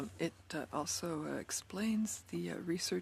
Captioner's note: speaking French